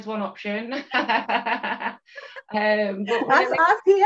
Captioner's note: laughs